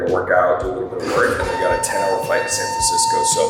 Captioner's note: elevator beeping